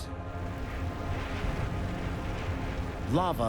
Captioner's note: churning